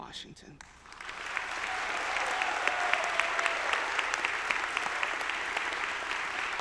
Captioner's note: audience applauding; audience cheering